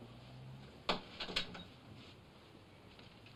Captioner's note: door closes